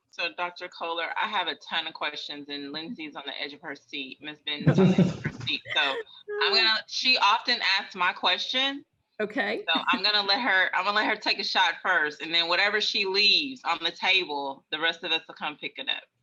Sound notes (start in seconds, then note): 4.6 attendees chuckling